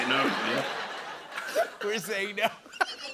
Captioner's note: laughter